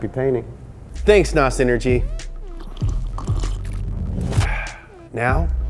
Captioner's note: sipping